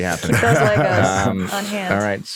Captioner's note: laughs